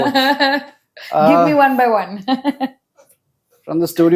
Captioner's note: laughs; laughs